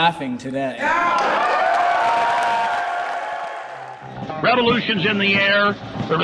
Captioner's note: cheers, applause; radio voice